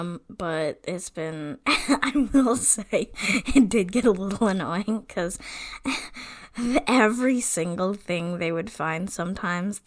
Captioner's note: laughing